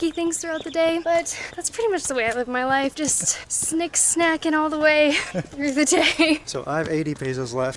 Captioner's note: laughs